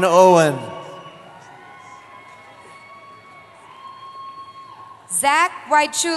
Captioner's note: cheering